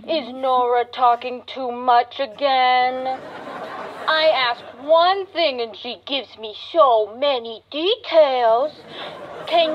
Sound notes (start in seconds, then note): 3.0 audience laughter